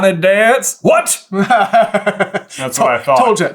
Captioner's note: laughs